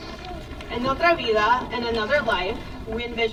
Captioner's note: speaks in foreign language